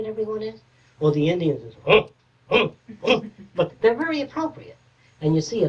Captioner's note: grunting